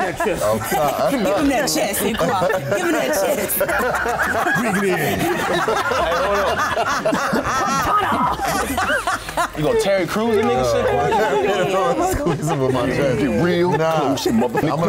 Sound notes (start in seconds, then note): 3.4 all laughing and talking over each other; 11.1 continued laughing and talking over each other